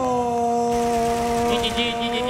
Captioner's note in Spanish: Aplausos